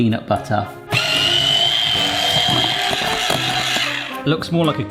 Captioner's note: hand mixer whirring